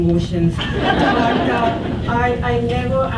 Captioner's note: audience laughs